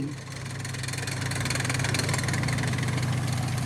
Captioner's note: engine roaring